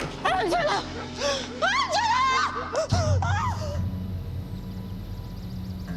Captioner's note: screaming